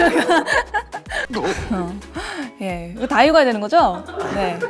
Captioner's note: making a big sigh